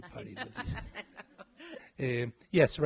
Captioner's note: laughing